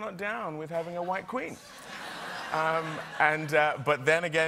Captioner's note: laughter